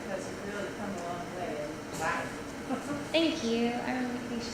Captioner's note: laugh